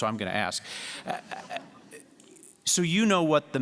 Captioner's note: laughter